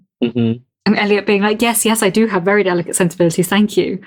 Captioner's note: laughs